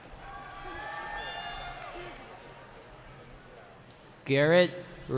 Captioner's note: cheering